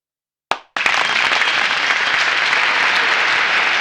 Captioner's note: applause